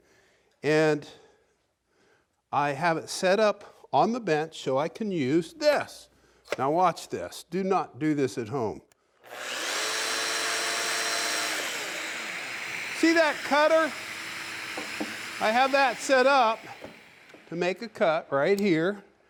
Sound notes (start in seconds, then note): 8.9 machine vibrating